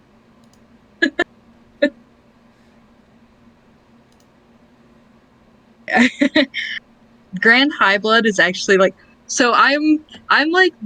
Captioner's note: laughs